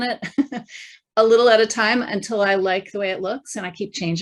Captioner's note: chuckling